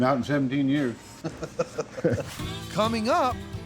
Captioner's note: laughing